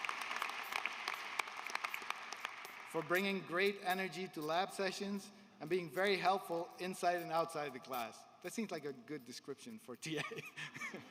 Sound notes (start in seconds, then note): 0.0 applause